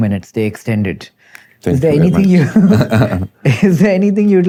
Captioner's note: chuckles